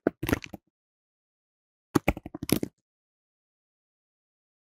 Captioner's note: keyboard typing